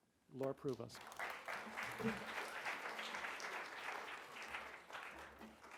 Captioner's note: audience applauding